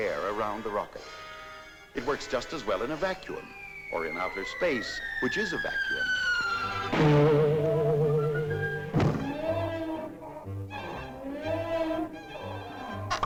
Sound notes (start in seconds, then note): 6.8 cartoonish thud